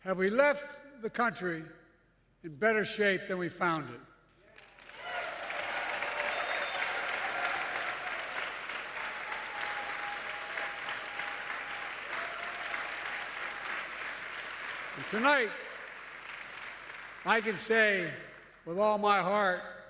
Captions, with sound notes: “Have we left the country in better shape than we found it?” (Applause.) And tonight, I can say with all my heart